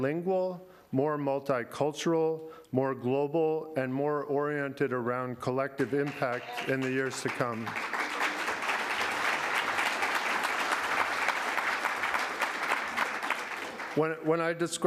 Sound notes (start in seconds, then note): 11.7 applause